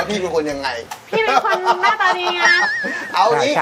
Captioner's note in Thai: หัวเราะ